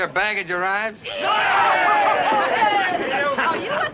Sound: men shouting excitingly

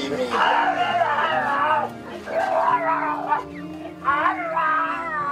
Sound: henchman groaning

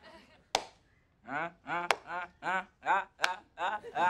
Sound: laughing

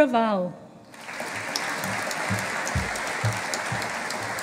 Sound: audience applauding

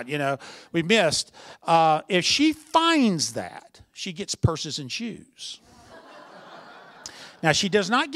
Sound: laughter

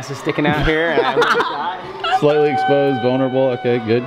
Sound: laughing

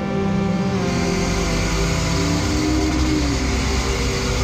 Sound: engine roaring

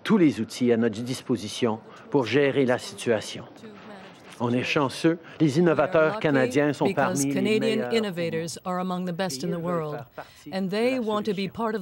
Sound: speaking french

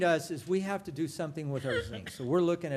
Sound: laughter

